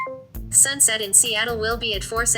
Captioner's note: voiceover